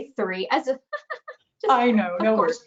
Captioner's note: laughs